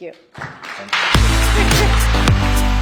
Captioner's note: audience applauding; upbeat music